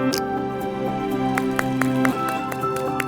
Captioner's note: clapping